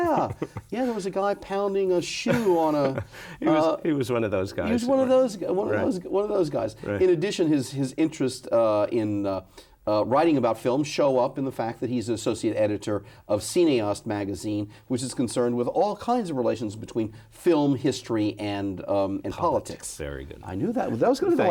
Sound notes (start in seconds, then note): 2.2 laughs